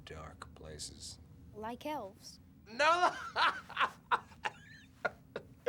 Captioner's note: laughs